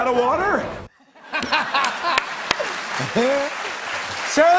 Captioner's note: laughter and applause